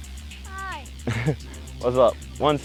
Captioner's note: laughs